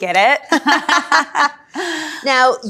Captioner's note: laughs